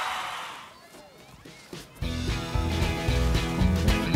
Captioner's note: cheers